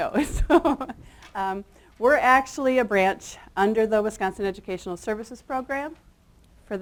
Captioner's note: chuckles